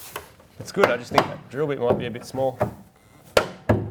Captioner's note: rattles